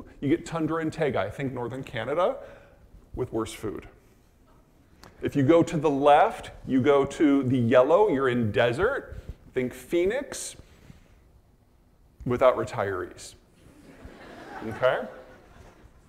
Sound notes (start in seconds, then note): 13.6 audience laughing